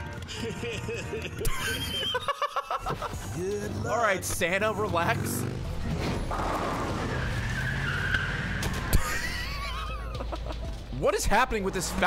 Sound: laughs

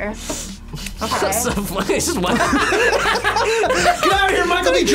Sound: laughs

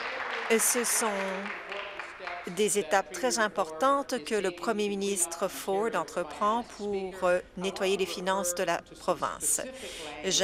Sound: applause

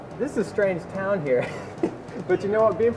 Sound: laughs

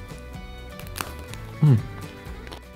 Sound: ice cream crunches

